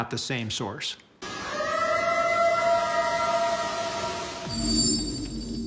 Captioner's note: eerie howl